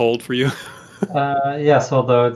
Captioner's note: chuckle